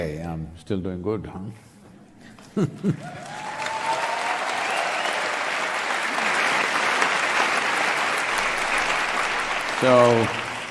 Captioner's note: cheering/Applause